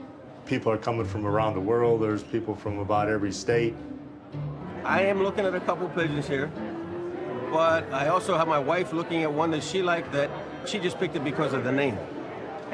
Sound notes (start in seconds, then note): none